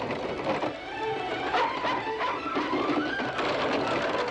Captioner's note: barking